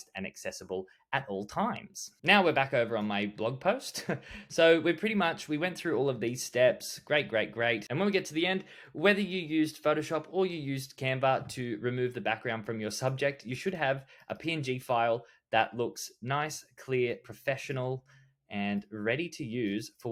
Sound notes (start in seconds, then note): 3.9 chuckles